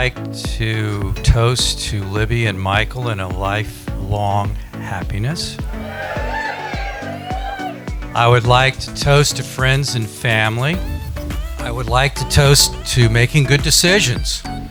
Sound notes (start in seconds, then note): 5.6 cheering; 14.5 upbeat music